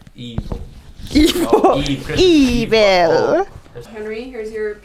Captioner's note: laughs